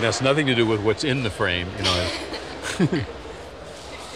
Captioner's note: both chuckle